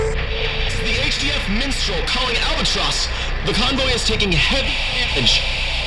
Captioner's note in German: rauschen